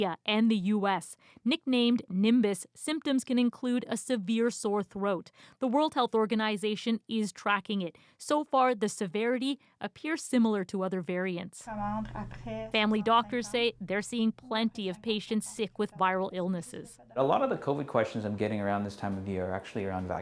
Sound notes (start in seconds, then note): 9.0 speaking alternate language